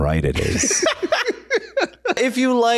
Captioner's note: laughing